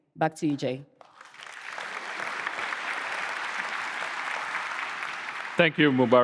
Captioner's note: applause